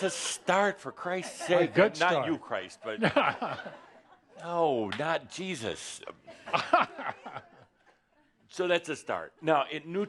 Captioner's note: laughter